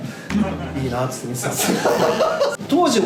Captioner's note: laughs